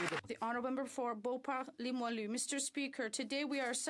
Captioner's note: some Applause